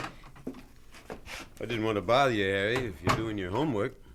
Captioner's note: door opens